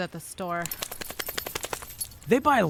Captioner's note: dog tags jingling; rapid flapping